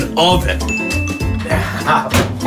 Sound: chimes; laughs

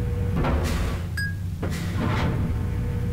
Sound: ding

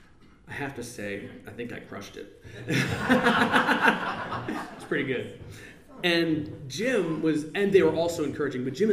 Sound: laughs

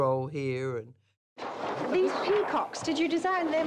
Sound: paper flapping

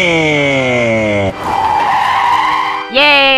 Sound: wrrrrrrrrrr

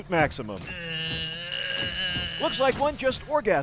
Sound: groaning

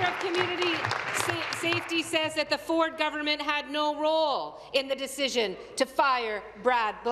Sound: applause

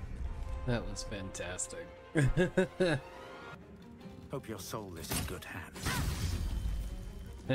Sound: laughs

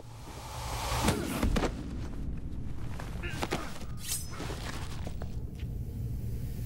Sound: grunting

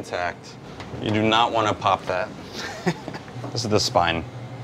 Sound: chuckles

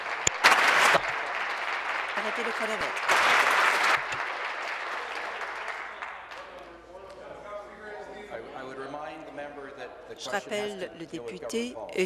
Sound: applause

